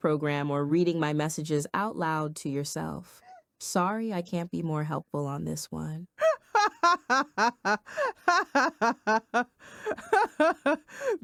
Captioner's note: laughing